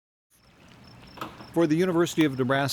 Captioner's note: birds chirping